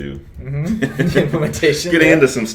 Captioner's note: laughs